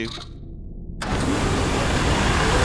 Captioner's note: machinery starts up